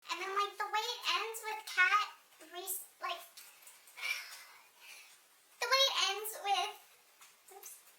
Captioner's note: sighs deeply